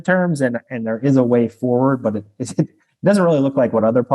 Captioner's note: laughs